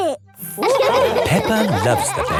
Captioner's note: all laughing